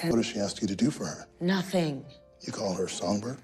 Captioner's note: none